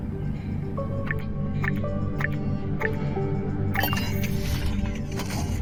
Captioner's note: interface chiming